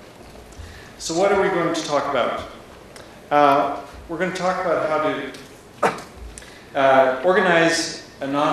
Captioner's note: coughs